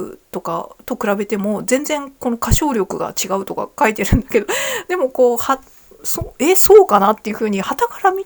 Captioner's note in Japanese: 笑い